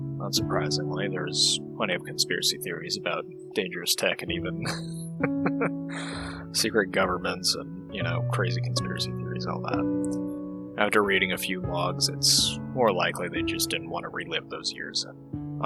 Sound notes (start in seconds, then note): 4.4 light laugh